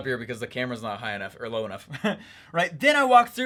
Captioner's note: laughs